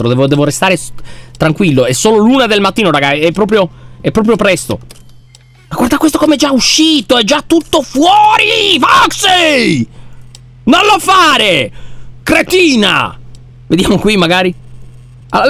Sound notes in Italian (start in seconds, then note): 9.5 urlando